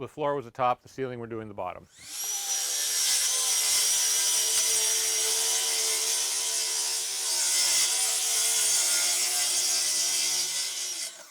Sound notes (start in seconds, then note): 3.1 machine grinding